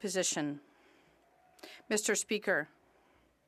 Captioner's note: speaking French